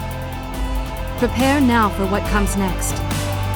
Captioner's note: voiceover